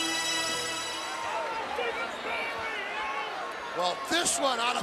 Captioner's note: audience chattering